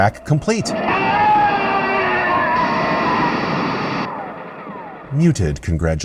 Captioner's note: scream; gunfire